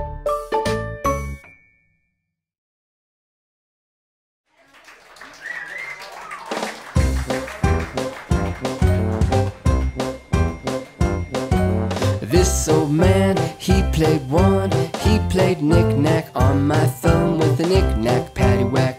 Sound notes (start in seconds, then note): 4.5 audience applauds; 7.6 upbeat music